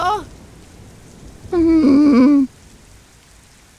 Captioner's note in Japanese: 心の声